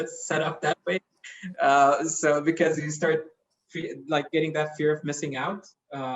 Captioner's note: laugh